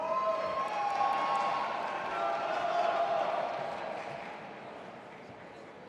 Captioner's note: audience applauding and cheering